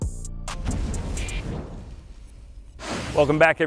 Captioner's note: air rushes